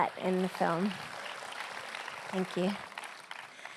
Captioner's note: applause